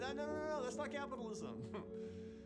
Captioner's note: chuckles